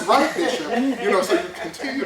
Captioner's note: laughter